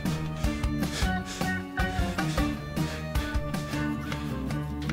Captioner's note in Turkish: Hızlı hızlı soluyor